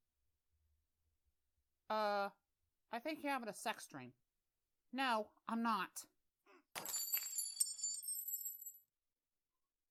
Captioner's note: glass shatters